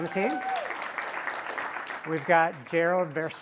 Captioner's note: applause